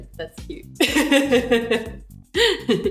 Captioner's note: laughs